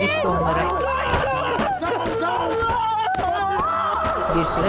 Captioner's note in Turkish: Bağırma sesleri